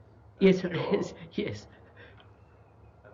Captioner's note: laughs